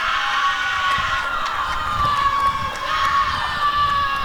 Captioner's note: applause and cheering